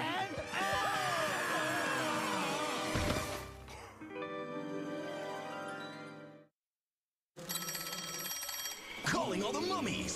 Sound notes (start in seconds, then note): 2.3 screaming; 3.6 gasps